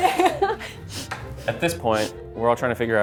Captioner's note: laughing; sniffing